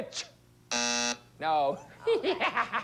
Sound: buzzer sounds; laughs like a witch

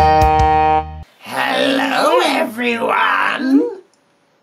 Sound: witch voices

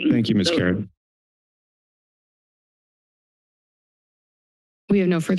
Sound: silence

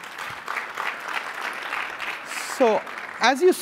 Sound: applause

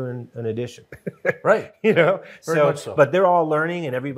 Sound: chuckles

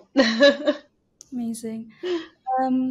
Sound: laughing

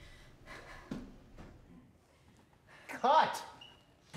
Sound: whimpering, sniffling

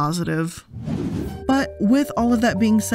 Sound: background whooshing

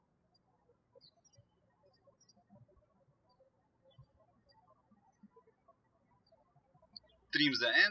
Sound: birds chirping

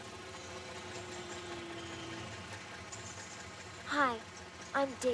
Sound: car window whirring

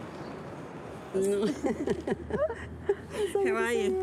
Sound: chuckles

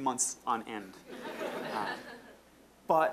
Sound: audience laughing

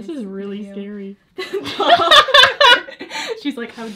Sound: both laugh

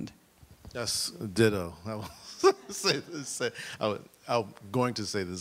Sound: laughs

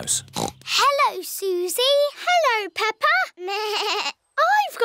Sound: snorts; bleats

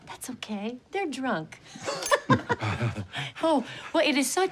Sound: both laugh

